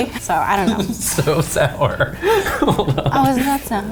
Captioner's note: laughs